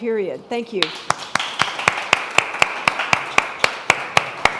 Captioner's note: crowd applauding